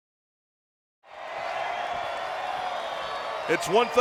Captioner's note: crowd cheering